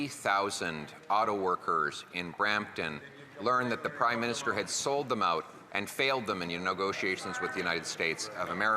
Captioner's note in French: voix de l'interprète